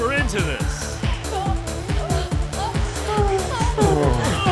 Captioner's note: moaning; grunting and moaning